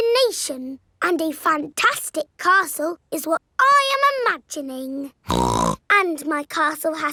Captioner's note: snorts